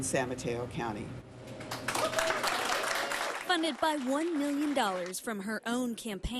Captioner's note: applause